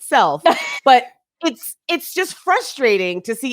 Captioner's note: laughs